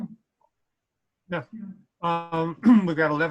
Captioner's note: clears throat